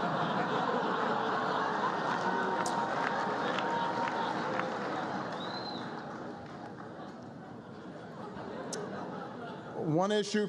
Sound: laughter and applause

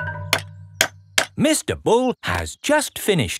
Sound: clanking

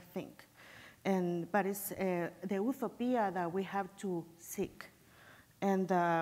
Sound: foreign language

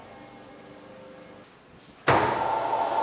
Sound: whirring

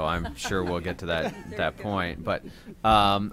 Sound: laughter

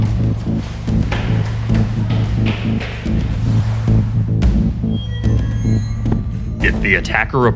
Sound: suspenseful music; footsteps on stairs

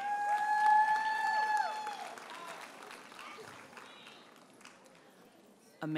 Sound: audience cheers and applauds

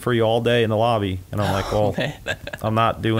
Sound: laughs

